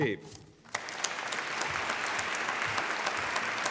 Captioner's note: applause